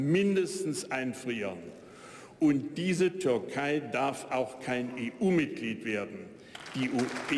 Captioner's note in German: Beifall bei der AfD